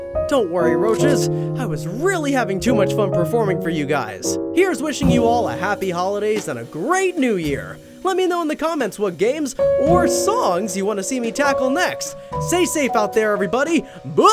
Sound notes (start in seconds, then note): none